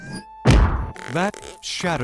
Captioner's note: impact sound